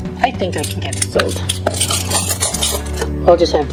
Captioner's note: thud of silverware dropping onto table